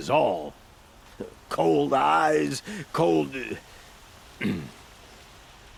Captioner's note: clears throat